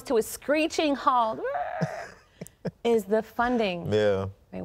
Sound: screeches

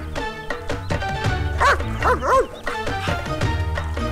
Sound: dog barking

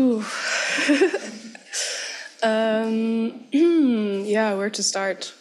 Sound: chuckles

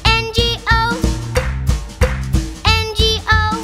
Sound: clap

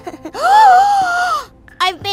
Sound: gasp

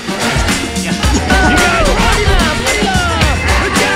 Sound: cheering

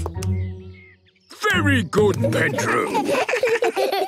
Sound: children giggle

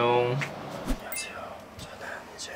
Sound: whispering

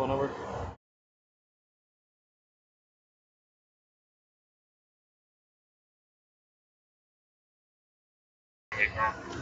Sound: audio muted

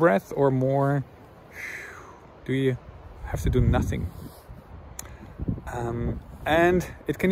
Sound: sighs

